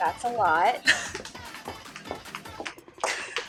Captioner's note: laughs